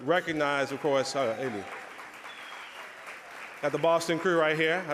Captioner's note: audience applause